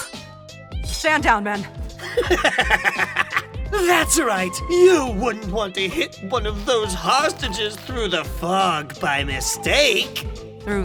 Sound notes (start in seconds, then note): 2.0 evil cackle